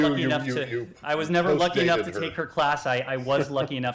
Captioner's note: laughter